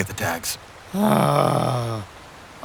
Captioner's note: sigh